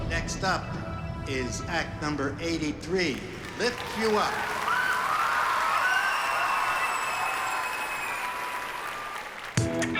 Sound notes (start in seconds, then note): 5.0 cheering and applause